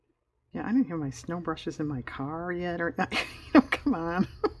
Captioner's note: laughs